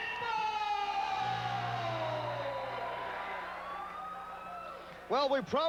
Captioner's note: crowd cheering